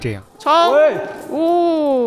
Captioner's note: chuckles